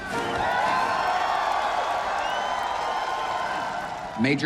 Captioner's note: crowd cheering and applauding